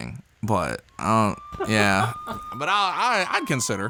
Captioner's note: sirens blaring